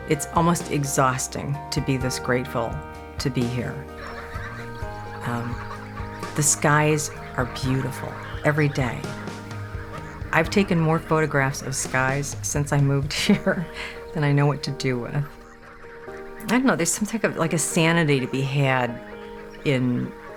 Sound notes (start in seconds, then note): 4.2 birds chirping; 4.2 honking; 13.1 chuckles